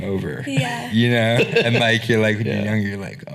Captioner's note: laughing